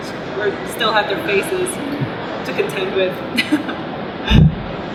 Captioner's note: laughs